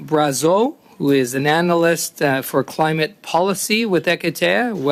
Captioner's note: speaking French